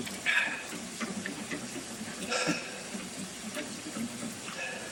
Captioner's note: mixer whirring